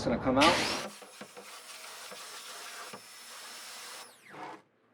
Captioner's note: pressure washer whirring